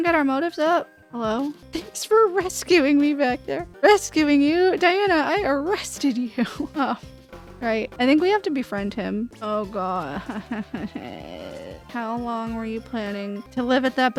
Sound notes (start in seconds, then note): 6.4 laughter